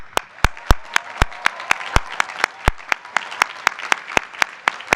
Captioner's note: applause